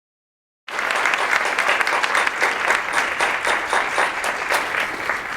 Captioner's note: audience applauding